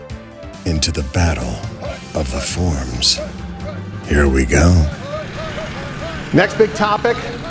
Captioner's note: tank rumbling and soldiers hut-hut-hutting